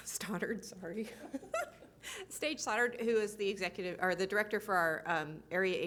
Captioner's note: chuckles